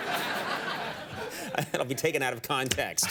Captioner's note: audience laughing